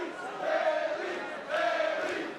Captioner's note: fans chanting